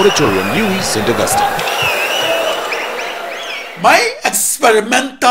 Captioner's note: wild applause and cheering for 22 seconds